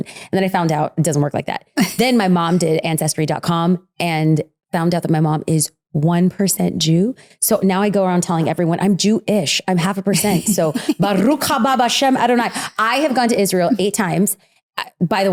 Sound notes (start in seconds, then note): 11.2 speaks foreign language